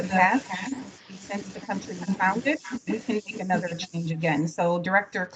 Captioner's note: faintly speaking